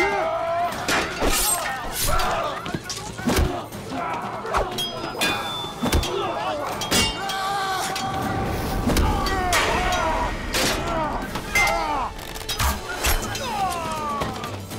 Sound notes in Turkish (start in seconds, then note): 0.0 Bağırma sesleri; 0.0 Kılıç sesleri; 1.3 Bağırma sesleri; 7.4 Bağırma sesi; 9.6 Bağırma sesleri; 9.6 Kılıç sesleri